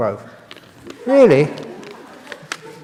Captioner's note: laughter